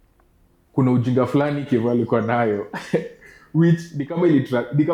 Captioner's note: laughs